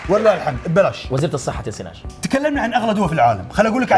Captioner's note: clapping